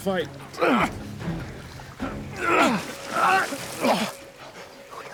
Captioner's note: grunts